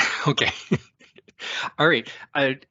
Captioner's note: laughs